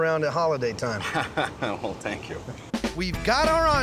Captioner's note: laughing